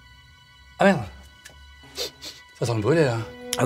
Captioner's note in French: sniff sniff